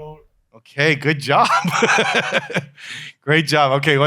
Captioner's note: laughs